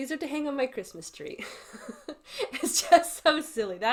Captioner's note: laughs